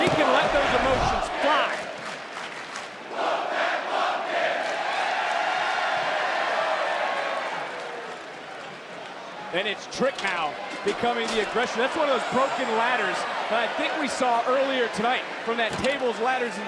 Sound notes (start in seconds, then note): 3.0 crowd chants